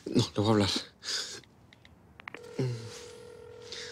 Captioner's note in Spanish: Sonido al marcar